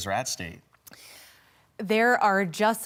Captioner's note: silence